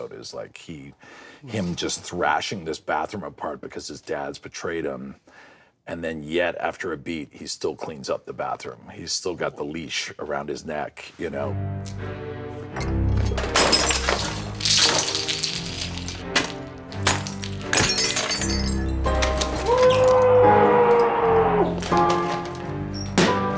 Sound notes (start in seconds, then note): 11.5 dark, dramatic music; 13.6 glass shattering; 14.9 clinking; 16.5 stomping; 19.6 muffled screaming; 23.3 pounding